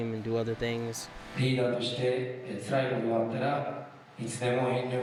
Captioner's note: speaking foreign language